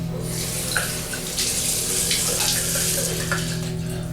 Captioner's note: tap runs